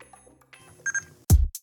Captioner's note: bebeep